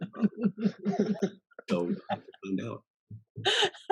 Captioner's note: laughing